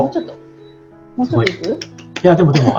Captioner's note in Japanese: 拍手